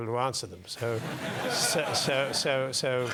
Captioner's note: laugh